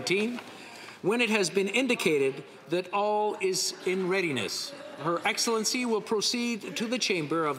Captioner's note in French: voix de l'interprète